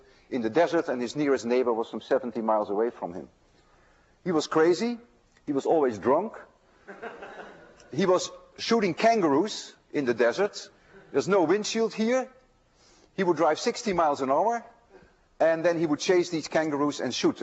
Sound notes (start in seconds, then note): 5.2 students laugh